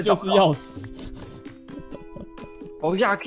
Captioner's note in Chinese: 笑～